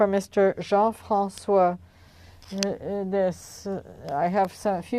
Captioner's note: speaking French